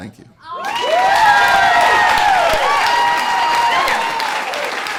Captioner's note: audience applauds